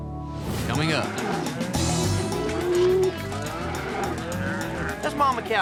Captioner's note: mooing